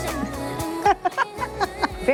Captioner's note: laughs